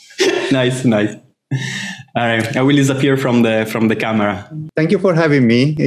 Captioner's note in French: rires